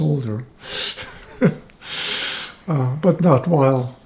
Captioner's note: laughing